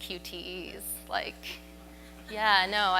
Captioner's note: audience murmurs